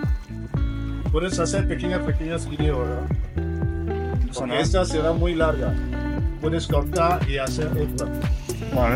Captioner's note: foreign language 00:28:51